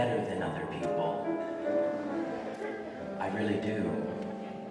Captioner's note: audience laughter